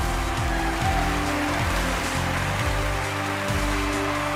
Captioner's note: applause; exciting music